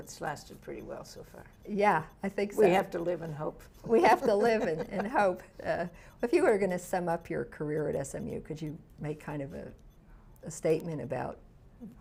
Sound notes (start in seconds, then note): 4.0 laughs